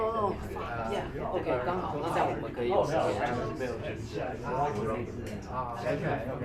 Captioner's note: speaking in foreign language